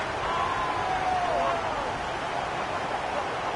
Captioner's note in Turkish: coşkulu tezahürat